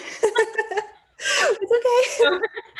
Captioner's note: panelists laughing